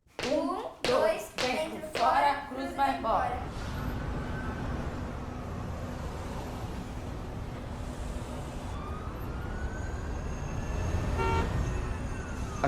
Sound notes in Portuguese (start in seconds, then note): 4.2 veículos ao fundo; 11.1 buzinando